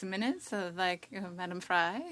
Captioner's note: speaking French